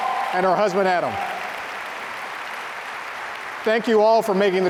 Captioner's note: audience applauding